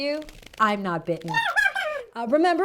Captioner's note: "YOU'RE WELCOME" in Bat